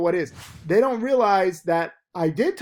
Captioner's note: air whooshes